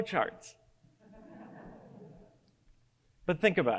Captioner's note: audience laughs